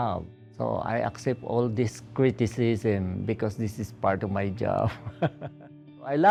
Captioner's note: chuckle